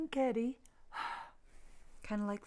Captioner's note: Sue blowing onto glasses